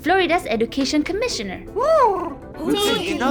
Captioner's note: Huti hoots